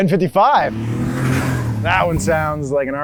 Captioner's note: car engine revving